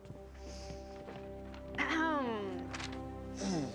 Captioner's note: clearing throat